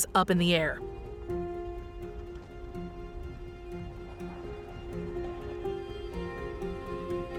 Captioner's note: suspenseful music; volcano crackling